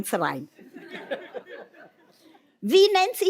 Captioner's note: laughter